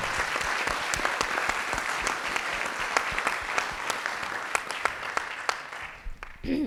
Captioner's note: applause